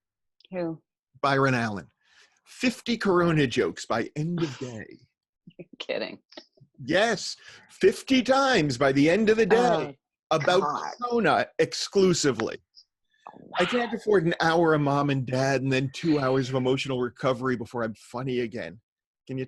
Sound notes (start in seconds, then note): 4.1 laughs